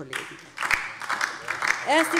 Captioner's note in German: Beifall DIE LINKE und vereinzelt SPD